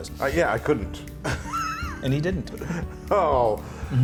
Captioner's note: laugh